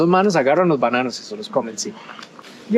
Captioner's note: in Spanish